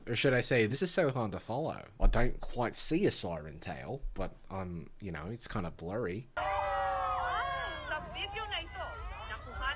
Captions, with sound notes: or should I say, (In Australian accent) this is so hard to follow, I don't quite see a siren tail, but you know, it's kind of blurry. (background yelling)